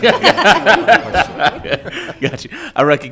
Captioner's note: all laughing